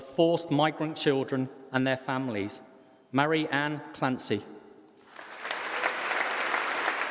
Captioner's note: applause